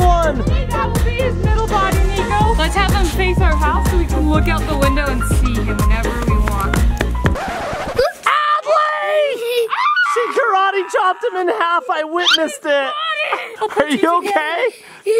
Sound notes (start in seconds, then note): 6.2 record scratch